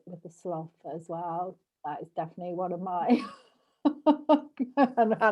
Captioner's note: laughs